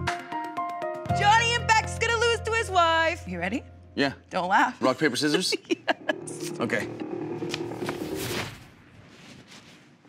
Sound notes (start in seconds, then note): 6.5 laughs